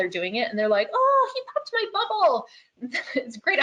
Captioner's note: chuckles